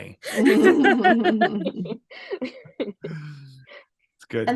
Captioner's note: laughs